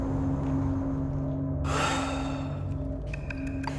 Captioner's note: sighs; suspenseful music